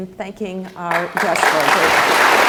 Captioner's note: applause